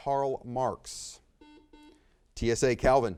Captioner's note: buzzer beeps